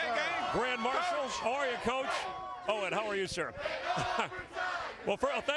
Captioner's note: cheers and applause